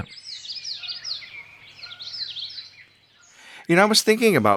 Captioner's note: birds singing